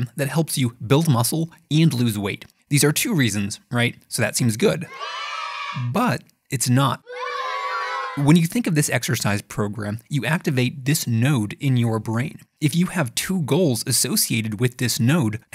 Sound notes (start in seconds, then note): 4.8 children cheering; 7.0 children booing